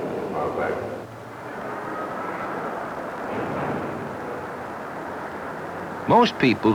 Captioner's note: street traffic